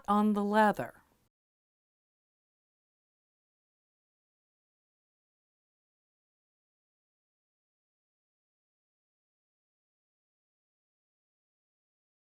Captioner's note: no Sound Present